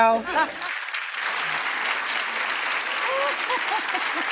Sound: audience applauds

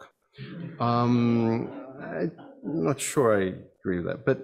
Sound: audience laughs

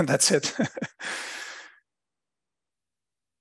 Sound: laughter

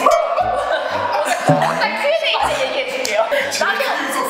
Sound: panicking

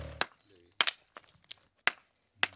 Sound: hammering

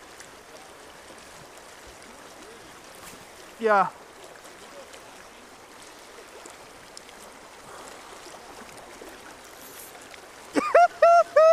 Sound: laughing

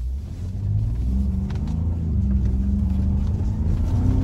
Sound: engine revs

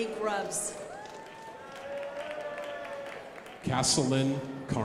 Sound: crowd applauding

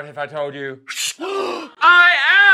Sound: gasps in surprise

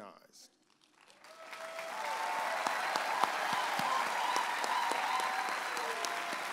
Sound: audience applauding and cheering

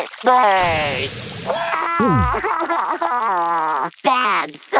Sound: cries

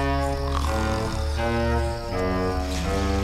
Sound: snoring

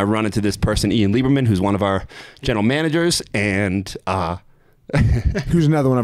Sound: chuckles

